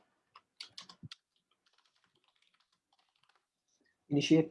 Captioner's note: keys clicking